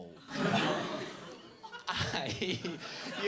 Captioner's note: audience gasping; laughs